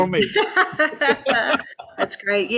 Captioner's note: laughs